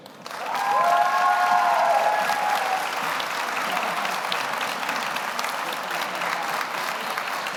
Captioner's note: audience applauds; audience cheers